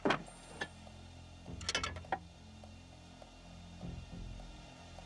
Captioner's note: clattering